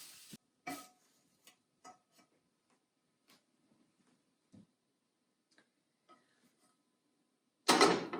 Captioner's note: sizzling; scraping; pan clanging